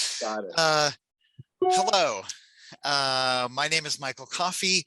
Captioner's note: notification dings